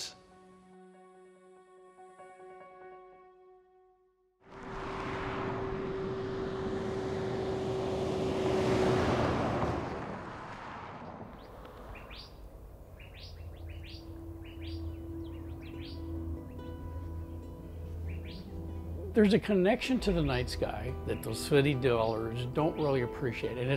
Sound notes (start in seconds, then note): 0.2 serene piano music; 4.8 car roaring; 12.1 birds chirping